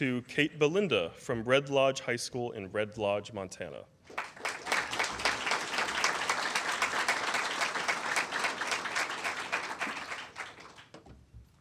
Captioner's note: applause